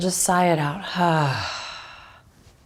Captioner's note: sighs